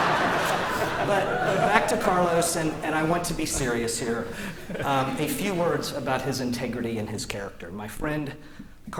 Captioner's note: laughter